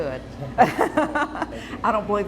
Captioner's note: laughing